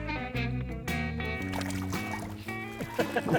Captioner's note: water splashing; people laughing